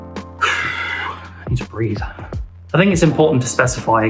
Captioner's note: huff